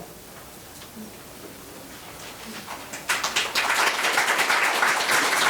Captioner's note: members applauding